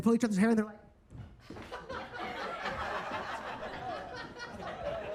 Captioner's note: audience laughs